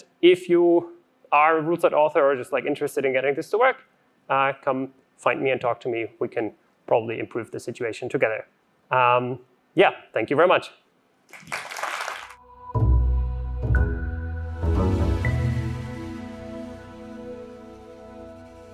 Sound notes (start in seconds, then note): 11.3 applause; 12.4 audio logo